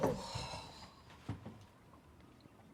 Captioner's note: sighs